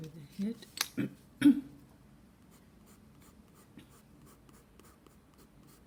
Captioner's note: clearing her throat..pardon this